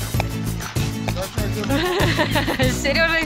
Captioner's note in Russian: смех